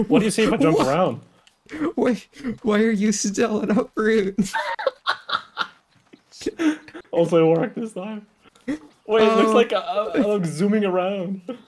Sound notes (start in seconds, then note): 0.0 laugh; 2.2 breathless; 3.9 laugh; 3.9 laughing; 6.3 still laughing